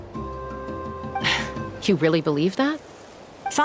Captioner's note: sigh